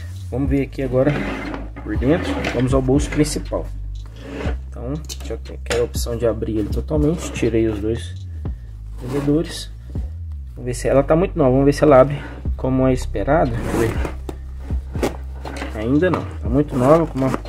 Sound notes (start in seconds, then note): 9.5 buckles